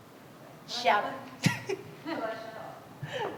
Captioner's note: laughs